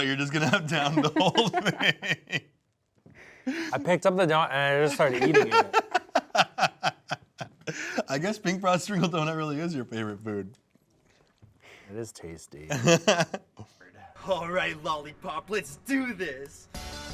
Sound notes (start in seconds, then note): 4.9 laughs; 12.7 laughs